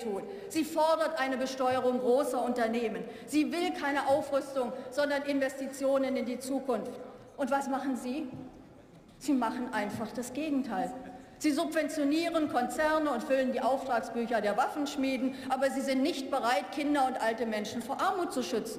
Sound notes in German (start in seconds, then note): none